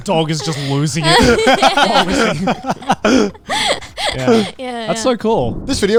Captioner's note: everyone laughing